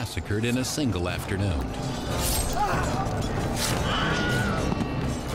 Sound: screams

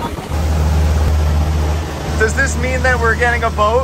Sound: boat engine revving

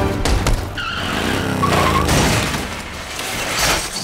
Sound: tires screeching

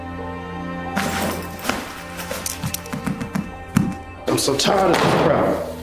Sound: bag rustling

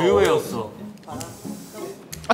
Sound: blowing

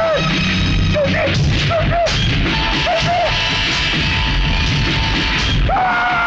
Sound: train horn blares; screaming

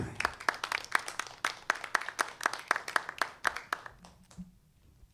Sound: applause

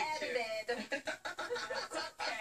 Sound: laughter

